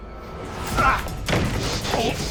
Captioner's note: both grunting